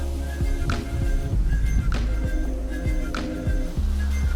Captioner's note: leaves rustling